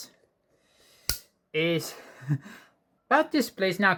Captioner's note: tripod noise